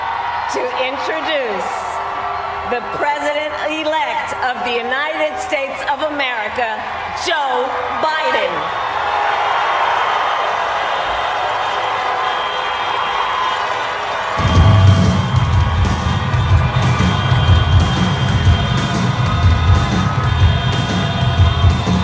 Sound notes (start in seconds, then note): 8.9 cheers and applaud